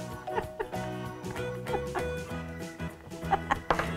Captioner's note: laughing